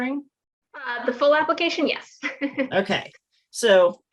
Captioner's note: chuckles